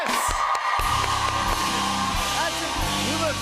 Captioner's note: cheers and applause